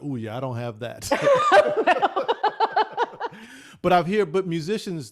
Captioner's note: laughs